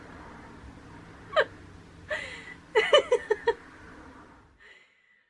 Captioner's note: laughing